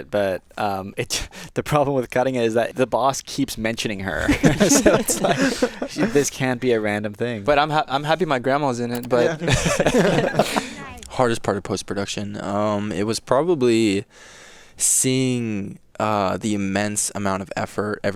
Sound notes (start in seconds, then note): 9.0 attendees laughing